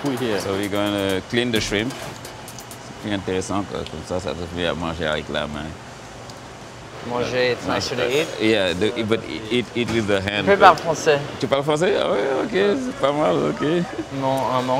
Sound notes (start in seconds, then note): 2.9 speaks in a foreign language